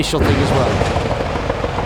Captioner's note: burst tyre